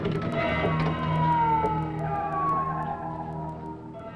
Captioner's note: suspenseful music; sirens wailing